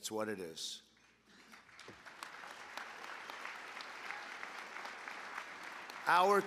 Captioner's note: applause